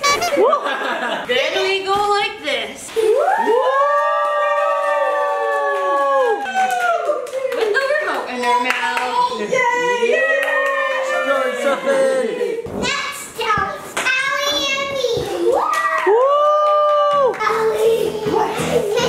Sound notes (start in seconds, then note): 0.0 horn honking; 3.0 crowd cheering; 18.5 dance music starts